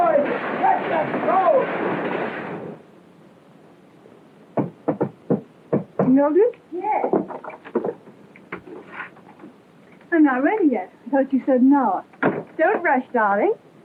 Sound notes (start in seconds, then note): 4.5 knock on the door